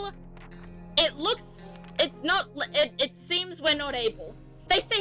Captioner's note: stammering